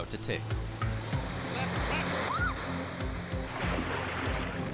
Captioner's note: woman screams